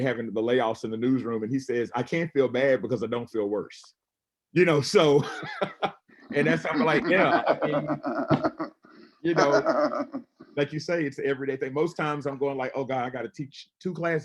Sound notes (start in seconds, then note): 6.4 laughs; 9.2 laughing